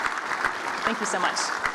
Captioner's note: applause